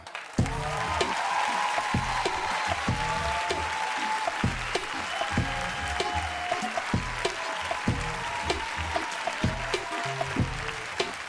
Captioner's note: applauding and cheering